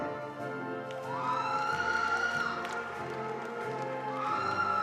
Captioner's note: attendees applauding